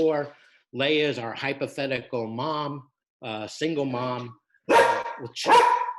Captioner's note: dog barks